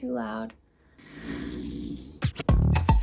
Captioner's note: inhaling sharply